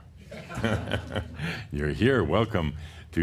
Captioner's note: chuckles